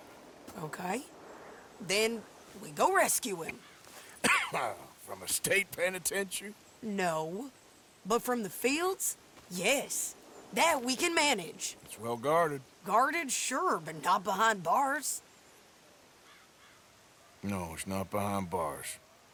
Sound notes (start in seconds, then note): 4.0 coughs